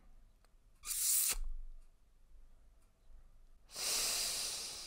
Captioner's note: wet lip smack; sucks air in through teeth